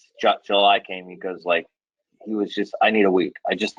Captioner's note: speaking faintly